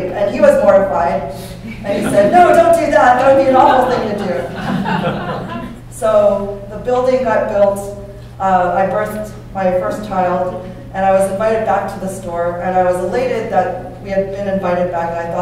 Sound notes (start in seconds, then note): 3.4 laughter